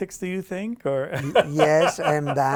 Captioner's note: laughs